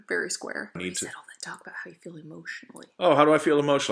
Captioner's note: whispering